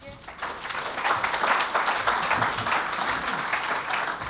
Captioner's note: audience claps